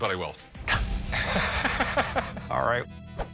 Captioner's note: both laugh